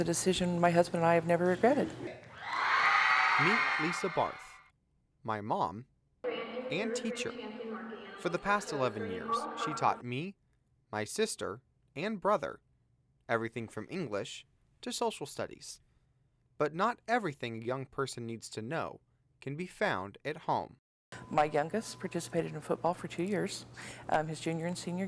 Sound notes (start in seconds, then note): 3.8 crowd cheering